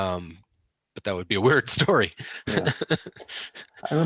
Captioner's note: laughs